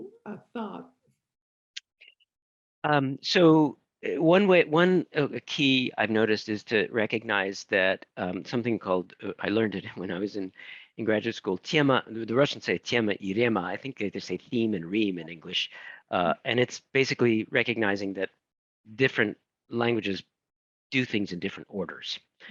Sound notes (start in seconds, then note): 13.4 speaking in foreign language